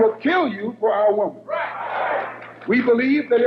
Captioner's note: audience applauding